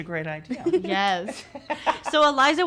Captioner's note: laughing